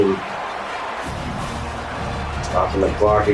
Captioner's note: crowd Noises